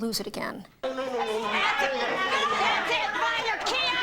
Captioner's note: shouting